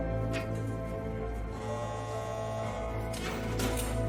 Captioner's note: buzzing gate; gate e opening